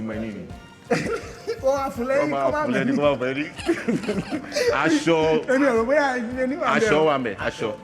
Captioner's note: laughs